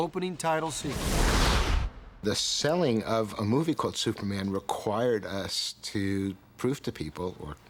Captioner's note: explosion